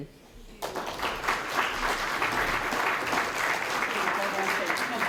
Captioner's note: applause